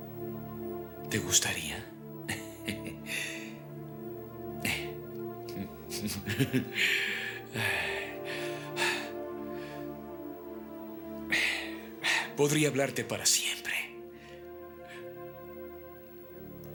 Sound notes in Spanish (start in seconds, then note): 5.8 risos; 6.6 suspiros